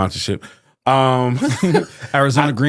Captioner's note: laughing